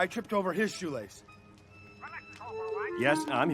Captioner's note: chattering on phone